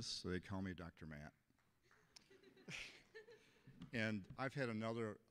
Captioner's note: audience laughing